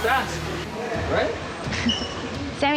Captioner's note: laughs